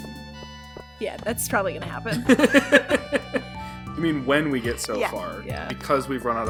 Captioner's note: laughter